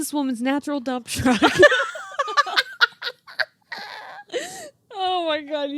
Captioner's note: laughing